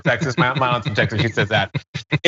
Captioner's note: laugh